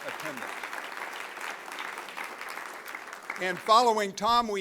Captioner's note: applause